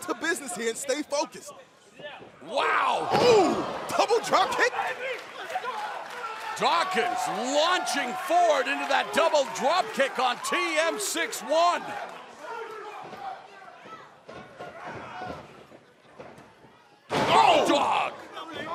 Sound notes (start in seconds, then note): 11.7 crowd chatter